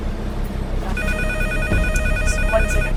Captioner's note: phone ringing